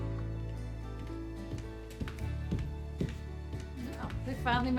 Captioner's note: footsteps approaching